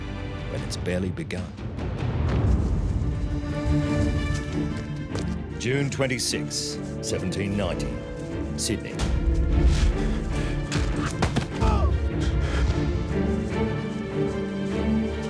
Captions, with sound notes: when it's barely begun. [heroic music] June 26, 1790. Sydney. [gasps] [shouts]